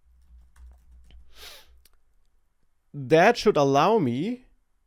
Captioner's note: sniffs